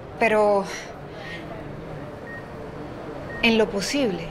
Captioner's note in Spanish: Pitido